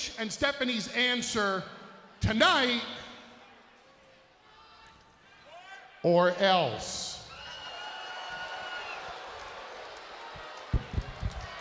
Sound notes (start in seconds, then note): 7.7 crowd murmuring